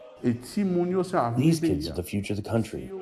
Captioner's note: through translator